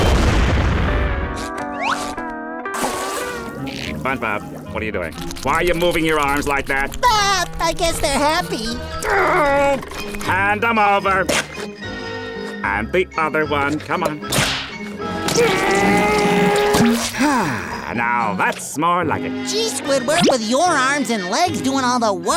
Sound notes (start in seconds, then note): 6.5 laughing; 8.9 groaning; 15.3 grunting; 15.4 sighing